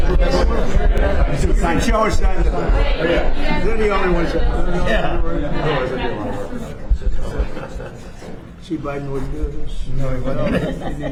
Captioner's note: background chatter